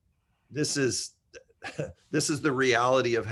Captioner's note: chuckles